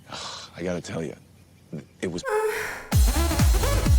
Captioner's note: orgasm